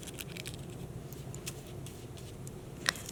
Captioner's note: paper rustling; brushing